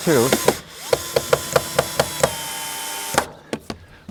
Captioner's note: drilling